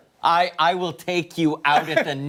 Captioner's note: laughter